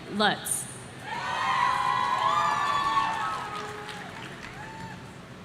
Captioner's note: audience cheering